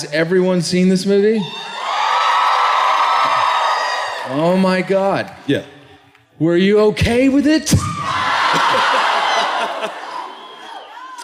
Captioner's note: cheers